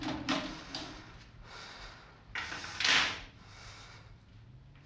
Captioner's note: breathing heavily